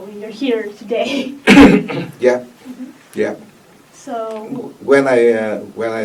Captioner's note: clears throat